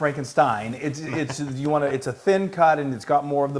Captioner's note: laugh